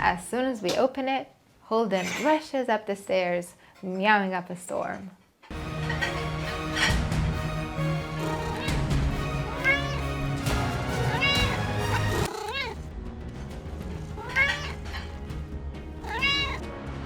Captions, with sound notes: As soon as we open it, Holden rushes up the stairs, meowing up a storm. (dramatic music) (Holden meows)